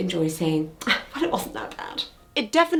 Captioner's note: scoffs